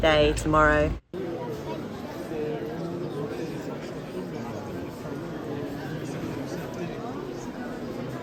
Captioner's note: voices